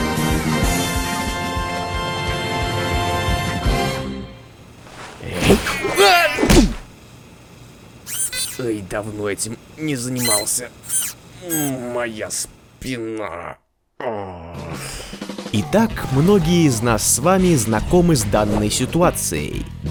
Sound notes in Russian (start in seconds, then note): 4.9 кряхтит; 6.4 звуки боли